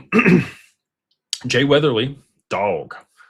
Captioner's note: clears throat